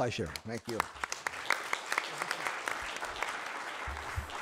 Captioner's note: audience applauds